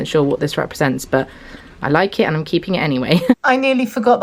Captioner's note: chuckles